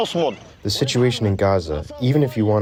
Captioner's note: through translator